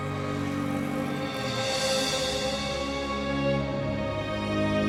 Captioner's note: motorcycle engine roaring